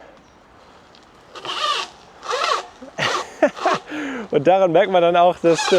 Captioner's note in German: Motor brummt